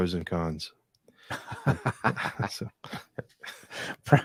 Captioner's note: laughing